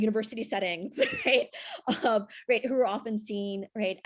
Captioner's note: laughs